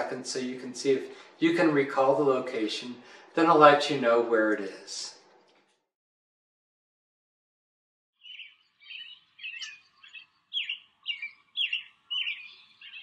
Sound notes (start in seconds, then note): 8.2 birds chirping